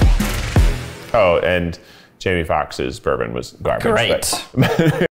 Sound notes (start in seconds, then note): 4.3 laughs